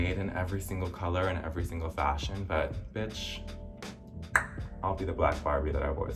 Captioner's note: tongue clicking